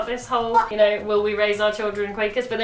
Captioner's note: laughs